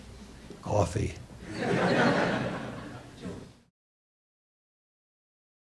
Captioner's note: audience laughs